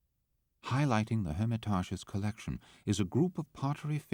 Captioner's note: voiceover